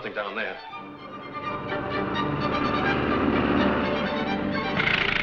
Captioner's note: plane engine roars